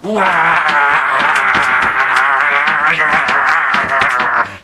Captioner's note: monster groaning